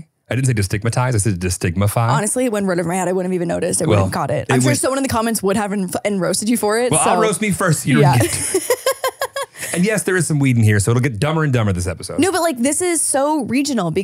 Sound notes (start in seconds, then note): 7.9 laughing